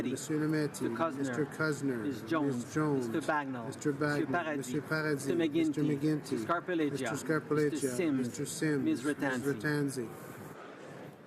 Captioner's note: speaking French